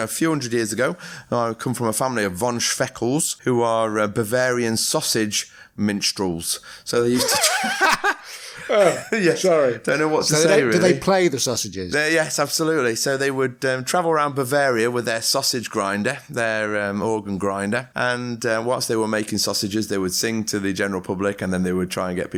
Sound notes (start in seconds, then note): 10.6 laughter